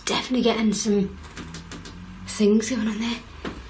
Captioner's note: faint scratching